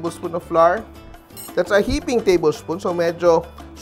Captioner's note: clang